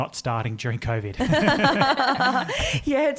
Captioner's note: all laugh